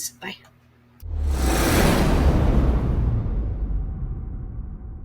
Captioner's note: logo whooshes